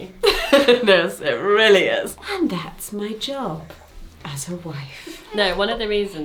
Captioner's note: laughs